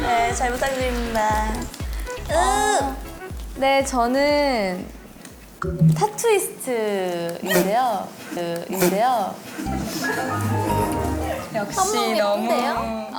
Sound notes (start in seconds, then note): 8.7 snort